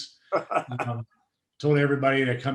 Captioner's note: laughing